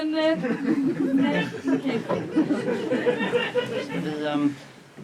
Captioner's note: laughter